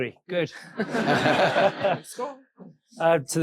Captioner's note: audience laughing